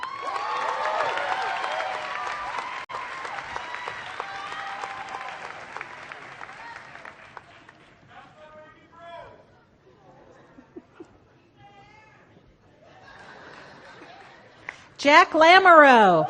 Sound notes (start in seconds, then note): 0.0 applause